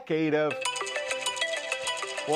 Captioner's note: sound of iPhone ringing